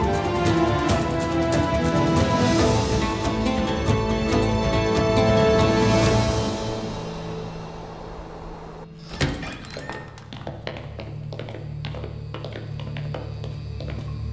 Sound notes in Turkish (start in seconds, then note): 0.0 Müzik - Hareketli; 8.9 Kapı açılma sesi